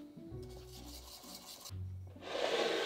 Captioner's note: whisking